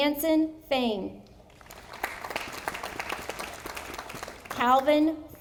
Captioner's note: audience applauding